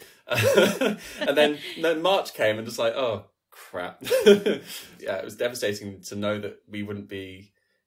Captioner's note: laughs